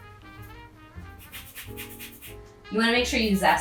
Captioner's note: zester scraping